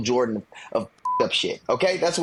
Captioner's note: beep